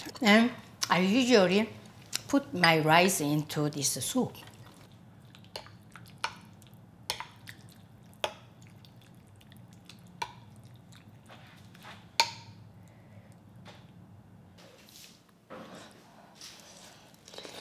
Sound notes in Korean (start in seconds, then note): 7.1 숟가락으로 섞는 소리